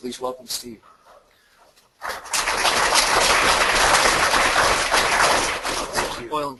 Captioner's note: clapping